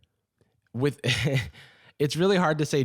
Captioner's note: laughs